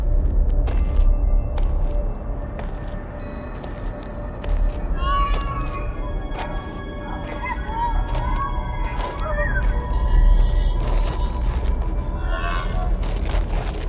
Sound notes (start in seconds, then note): 0.3 eerie music; 6.2 otherworldly sound